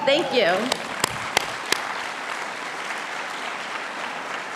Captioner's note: audience applauding